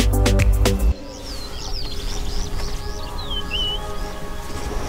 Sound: birds chirping

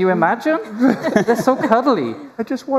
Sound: laughter

